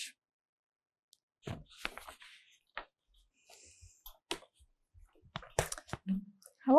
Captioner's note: pauses 6 seconds